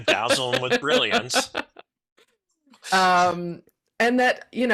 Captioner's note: laughing